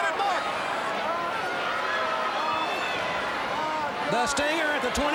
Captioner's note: crowd cheering